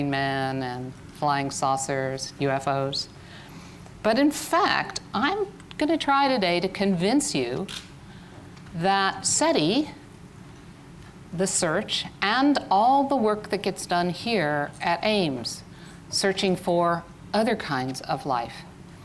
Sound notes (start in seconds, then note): none